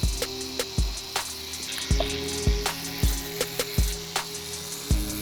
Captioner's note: tattoo gun running